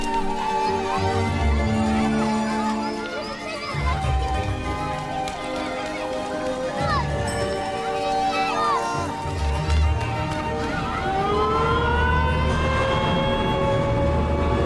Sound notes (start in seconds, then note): 10.6 siren sounds